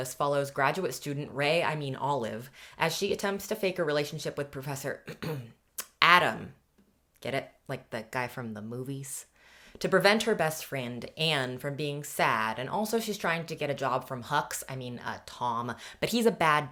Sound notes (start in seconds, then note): 5.0 clears throat